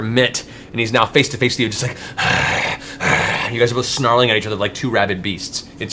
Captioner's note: snarls